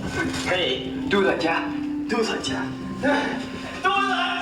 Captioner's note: speaking vietnamese